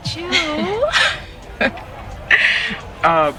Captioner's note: Princess and Ja'nelle laughing